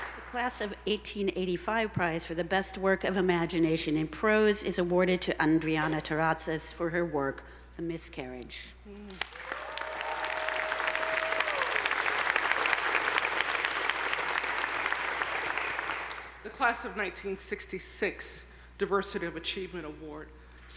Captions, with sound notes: - The Class of 1885 Prize for the Best Work of Imagination in Prose is awarded to Andriana Taratsas for her work "The Miscarriage." (attendees applauding) (audience whooping) - The Class of 1966 Diversity of Achievement Award,